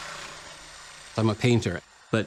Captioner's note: drill whirring